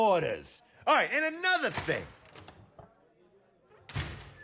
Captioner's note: door closes; door opens